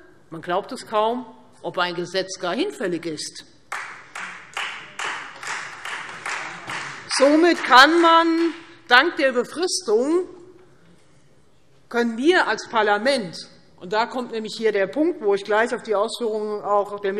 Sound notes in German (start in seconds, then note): 3.7 Beifall Freie Demokraten